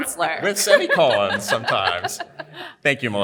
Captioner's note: panelist laughing heartily